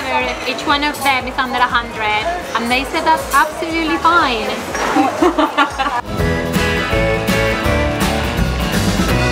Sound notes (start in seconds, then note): 4.9 laughter